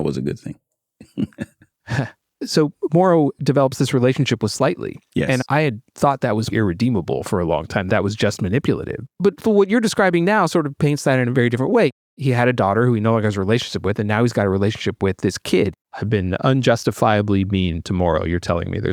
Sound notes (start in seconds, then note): 1.0 laughs